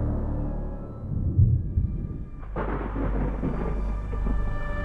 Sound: thunder rumbling; lightning clapping; slow music

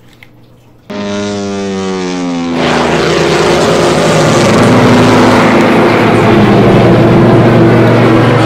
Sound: bomber aircraft taking off

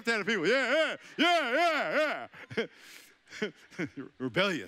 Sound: chuckling

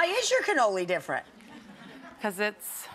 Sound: crowd laughs

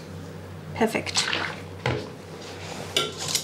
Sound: splashing

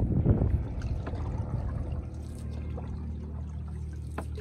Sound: water splashing

